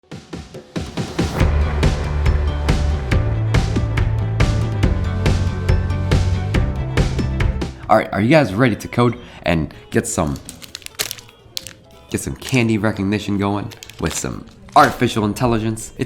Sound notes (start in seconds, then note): 0.8 upbeat music; 10.0 candy wrappers crinkle